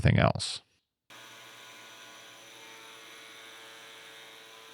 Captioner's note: machine whirring